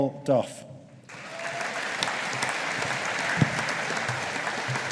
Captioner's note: audience applauding